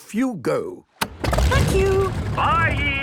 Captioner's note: engine starting